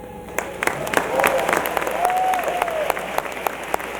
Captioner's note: applause